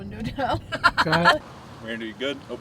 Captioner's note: riendo